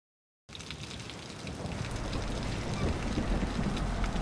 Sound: thunder rumbling

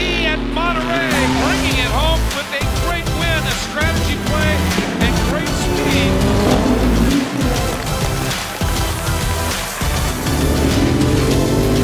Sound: engines revving as they race down the track; crowd cheering and whistling

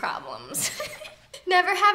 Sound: giggles

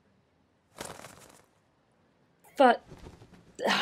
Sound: a flutter of feathers

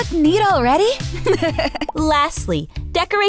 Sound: laughing

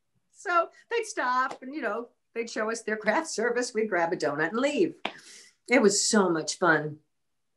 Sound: none

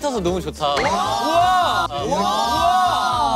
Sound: exclaiming

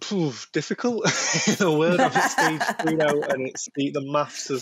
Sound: laughter

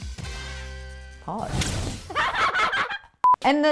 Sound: laughs

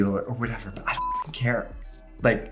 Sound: beep

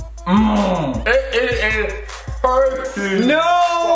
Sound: bell dings

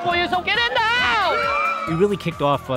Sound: cheers

